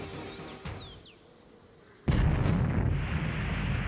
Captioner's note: birdsong; explosion